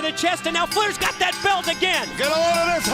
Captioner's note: bell ringing